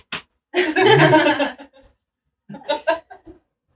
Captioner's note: slaps hand; laughing